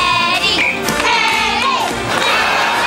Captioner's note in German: Pfeife